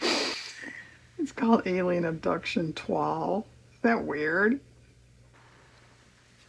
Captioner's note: laughs; laughs